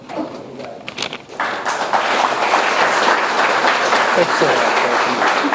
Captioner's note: audience applauds